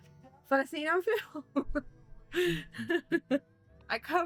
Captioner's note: laughs